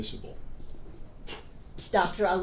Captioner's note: Dr. Ali blows